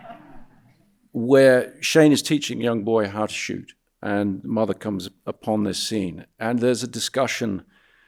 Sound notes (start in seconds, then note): 0.0 audience laughing